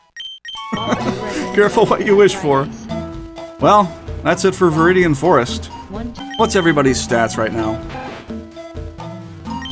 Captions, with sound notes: (Laughs) Careful what you wish for! Well, that's it for Viridian Forest. What's everybody's stats right now?